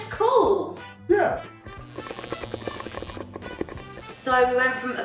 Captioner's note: buzzing